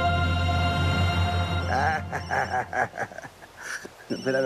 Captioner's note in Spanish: Suena un celular